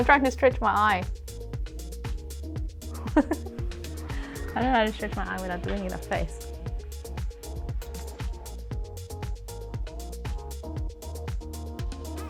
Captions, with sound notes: I'm trying to stretch my eye. (laughing) I don't know how to stretch my eyelid, I'm doing in a face. (upbeat music)